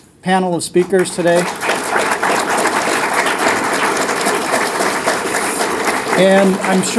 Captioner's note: applause